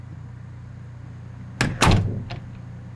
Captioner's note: door closing